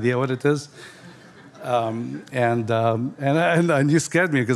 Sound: audience laughing

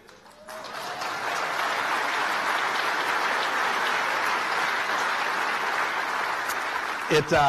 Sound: applause

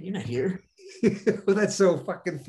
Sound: Denis laughing

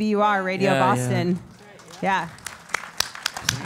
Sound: applause

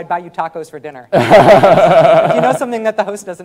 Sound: laughing

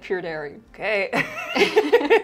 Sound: excitedly; both laugh

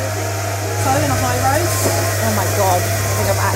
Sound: coffee grinding

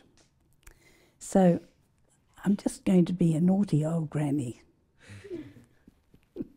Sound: laugh

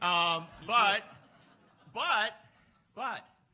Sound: laughs

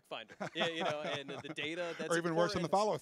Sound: laughing

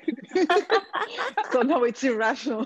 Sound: all laughing

